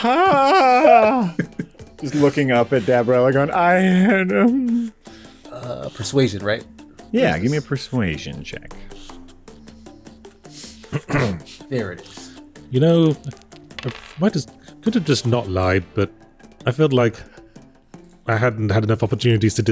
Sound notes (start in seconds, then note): 4.0 nervous dwarven sounds